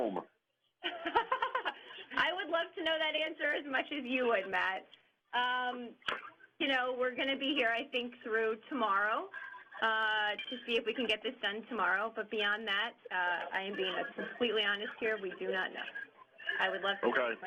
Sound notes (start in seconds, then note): 0.8 laughter